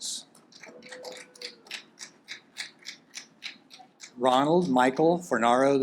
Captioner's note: audience applaud